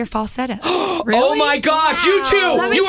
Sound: gasp

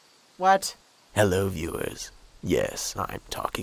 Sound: dramatic voice

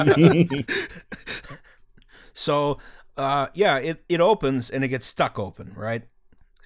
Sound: laughter

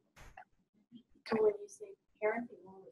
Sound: voiceover

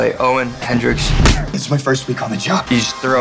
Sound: fist smacking

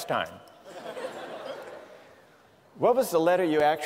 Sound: laughter

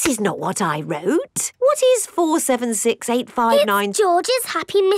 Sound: none

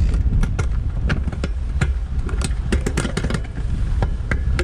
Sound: metals clanking

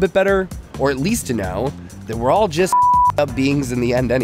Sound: beep

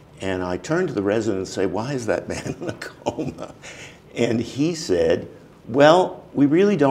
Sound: chuckle

